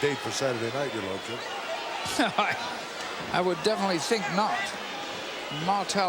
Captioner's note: laugh